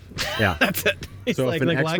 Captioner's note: laughs